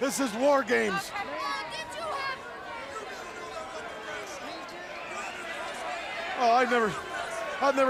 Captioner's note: crowd chatter